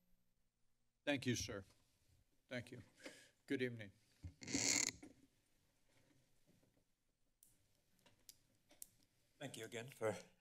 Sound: mic squeaks

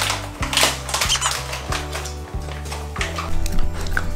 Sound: cries

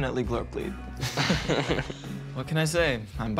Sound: both laugh

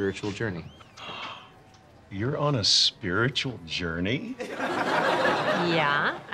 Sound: gasps

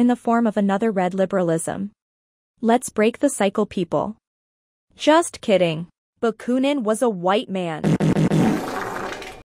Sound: farts

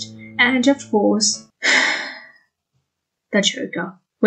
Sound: sighs

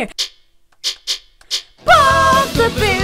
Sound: tick; tick tick, tick

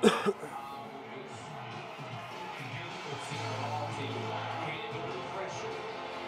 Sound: cheering

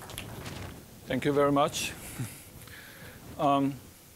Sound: applause; with Chinese accent

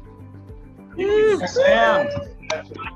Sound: cheering

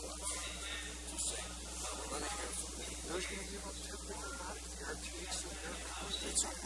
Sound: murmured discussion

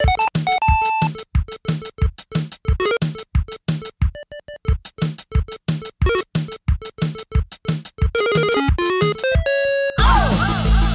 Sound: video game music; blips and beeps; drumbeat music

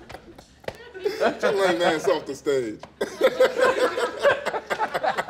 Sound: laughter

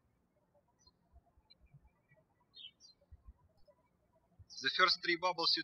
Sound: birds chirping

